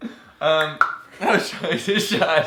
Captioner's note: knocking noise; laughing